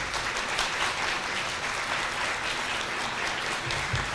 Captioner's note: applause